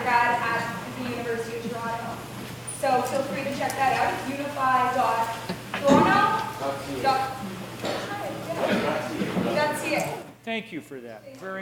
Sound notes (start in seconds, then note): 6.8 speaking in foreign language